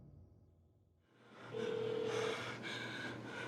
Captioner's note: phone ringing